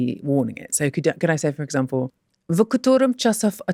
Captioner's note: russian